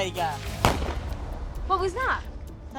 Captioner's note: gunshot blasting